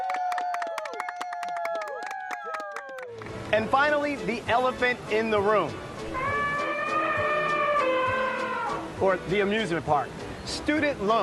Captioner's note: cheers and applause